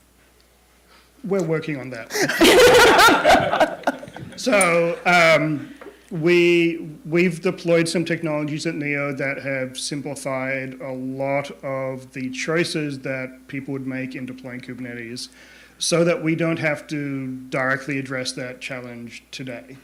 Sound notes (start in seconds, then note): 2.1 laughter